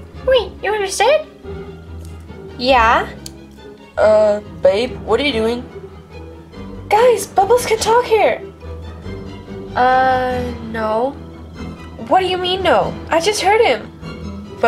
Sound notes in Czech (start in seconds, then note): none